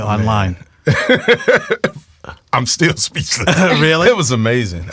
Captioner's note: laughs